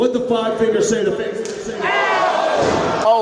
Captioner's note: hand slaps; crowd exclaims